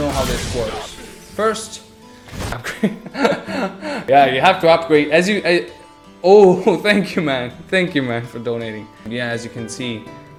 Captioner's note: laughter